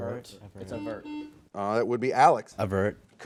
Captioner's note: buzzer